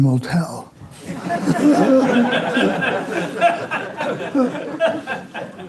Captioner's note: laughing